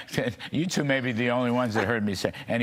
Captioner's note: laughter